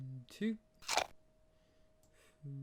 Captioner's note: apple munching sound